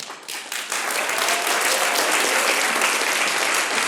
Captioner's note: applause